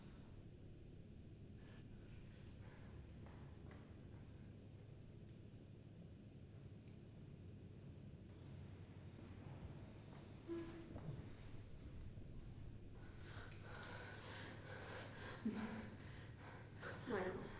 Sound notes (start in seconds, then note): 13.0 Catherine panting